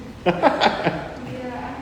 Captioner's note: laughs